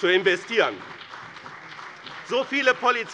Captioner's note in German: Beifall bei dem BÜNDNIS 90/DIE GRÜNEN und der CDU